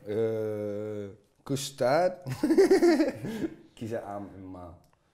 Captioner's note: laughs